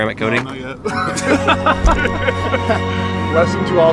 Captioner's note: laughing; dramatic music